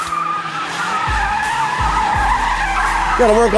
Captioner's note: tires screeching